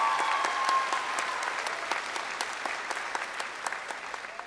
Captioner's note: crowd cheering